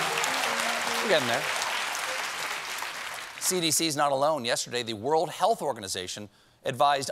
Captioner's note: applause